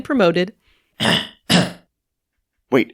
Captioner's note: coughing